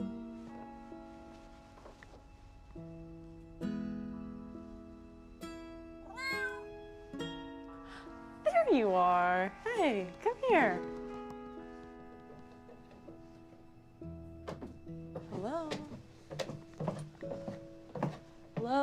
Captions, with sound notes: (reflective music) (cat meowing) - There you are! Hey, come here! (reflective music) Hello?